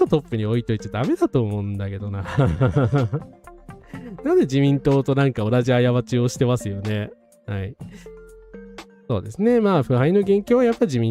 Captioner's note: laughs